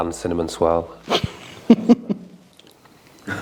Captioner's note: laughter